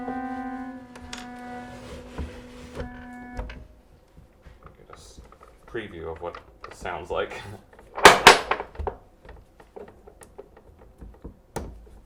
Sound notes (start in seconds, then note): 0.3 organ chimes ringing; 8.6 chuckles